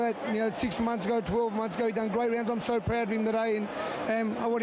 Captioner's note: applause